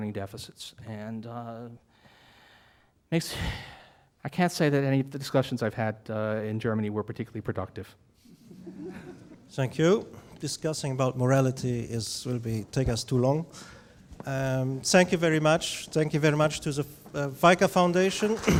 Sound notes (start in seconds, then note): 8.3 audience laughing